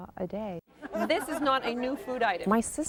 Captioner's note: customers laugh